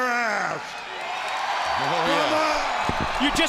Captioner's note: crowd cheering